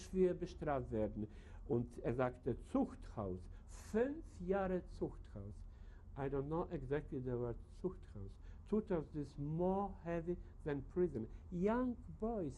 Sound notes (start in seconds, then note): 7.9 speaks German